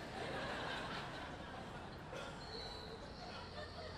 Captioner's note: audience laughing